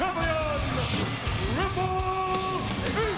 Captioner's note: graphic whooshing